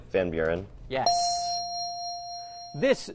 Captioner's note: ding